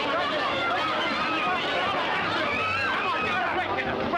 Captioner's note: clamoring